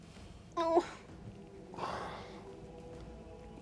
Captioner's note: whimpers